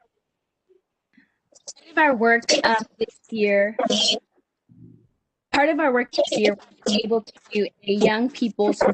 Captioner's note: audio breakup